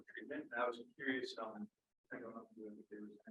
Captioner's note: speaking faintly